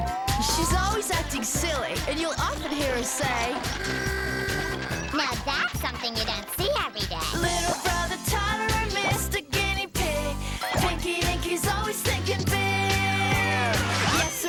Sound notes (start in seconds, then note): 4.1 horn honks